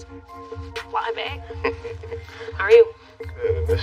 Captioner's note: chuckles